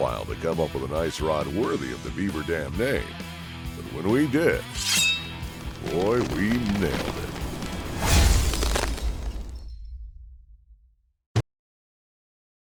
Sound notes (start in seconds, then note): 4.8 ice shattering; 8.5 dramatic music